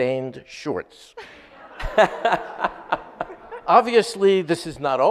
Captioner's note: audience laughs